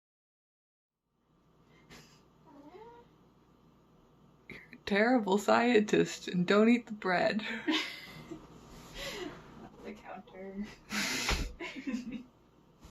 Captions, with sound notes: You're a terrible scientist. Don't eat the bread. [laughs] Get off the counter.